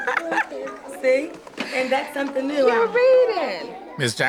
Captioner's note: laughs